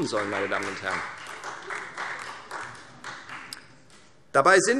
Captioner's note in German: Beifall